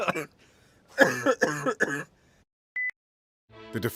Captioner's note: laughing; coughing